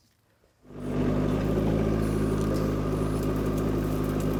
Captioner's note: engine rumbling